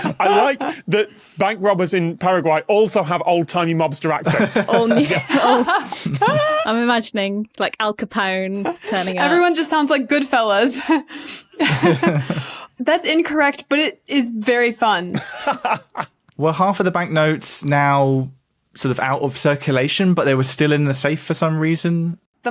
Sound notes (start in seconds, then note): 4.2 group laughing; 11.6 chuckle; 15.1 laughs heartily